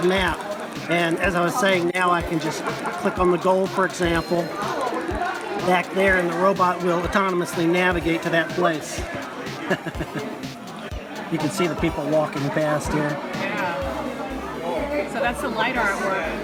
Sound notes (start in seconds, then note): 10.2 chuckles